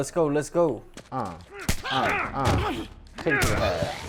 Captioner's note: grunting